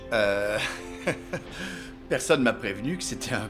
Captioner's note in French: rires